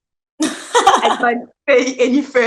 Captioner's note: laughs